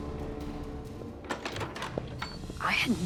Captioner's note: door opens